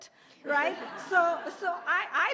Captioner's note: laughter